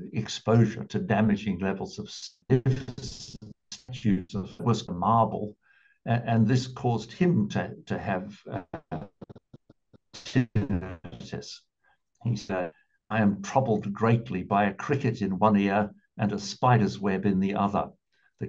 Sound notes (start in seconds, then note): 2.4 audio distorted